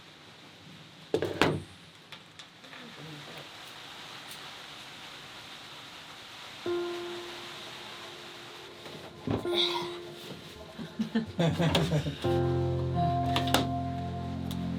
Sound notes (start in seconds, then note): 6.7 chill music; 10.6 chuckling